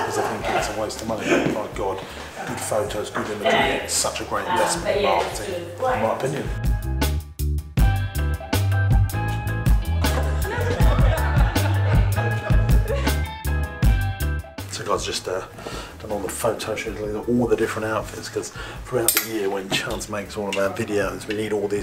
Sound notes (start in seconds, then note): 7.8 dance music; 9.8 laughing